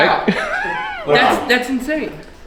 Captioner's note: laughing